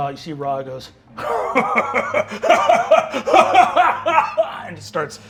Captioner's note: laughing